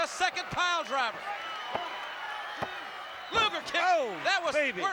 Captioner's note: applause